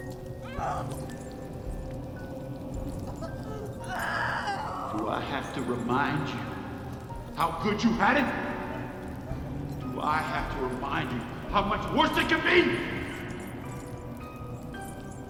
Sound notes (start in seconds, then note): 0.9 Heather screaming